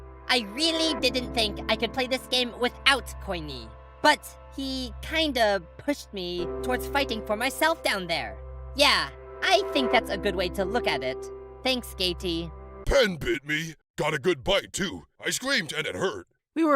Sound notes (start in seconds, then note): none